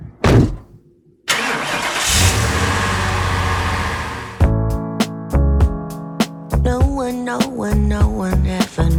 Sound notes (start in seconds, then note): 1.2 car engine starts